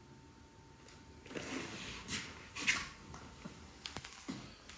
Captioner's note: clothes rustling